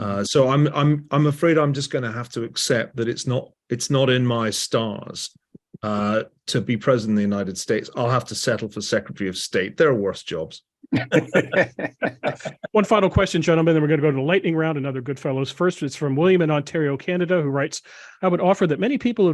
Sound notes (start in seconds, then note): 10.9 laugh